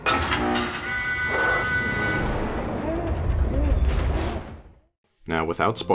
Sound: alarm blaring, gasping and groaning follows

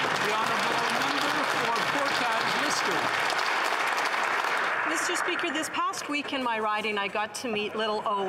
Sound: some Applause

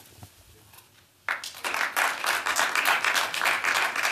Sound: applause

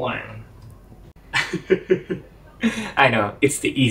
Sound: laughs

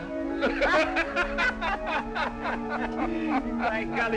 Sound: laughing

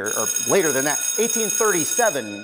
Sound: schoolbell rings

